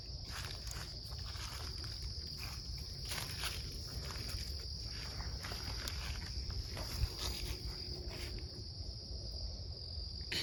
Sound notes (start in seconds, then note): 3.3 feet crunching